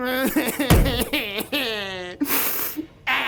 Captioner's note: cried-ing